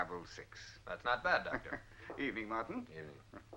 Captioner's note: chuckling